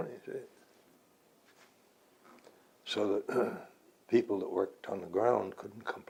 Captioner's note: clears throat